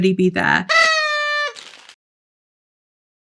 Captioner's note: party horn